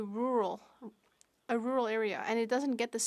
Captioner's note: speaking French